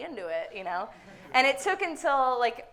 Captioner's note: audience laughing